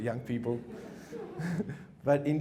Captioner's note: chuckles